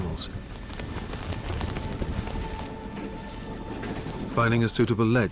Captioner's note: bats flying